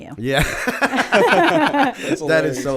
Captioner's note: laughter